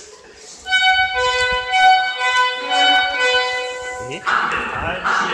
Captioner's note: signal Sound